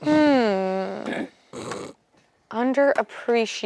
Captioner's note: snorts